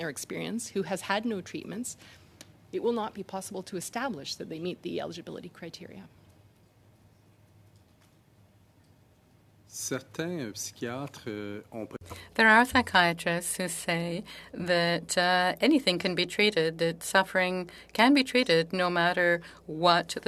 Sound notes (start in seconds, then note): 13.8 speaking French